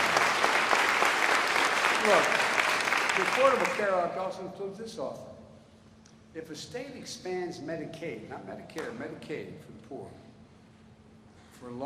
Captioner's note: applause